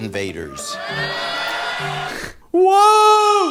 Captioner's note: audience cheering